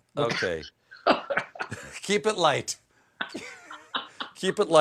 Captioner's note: laughter